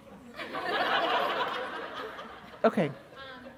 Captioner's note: laughter